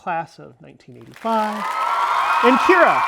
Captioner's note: applause